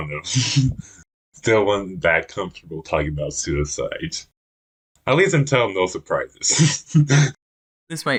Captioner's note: laughs; laughs